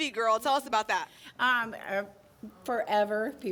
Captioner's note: none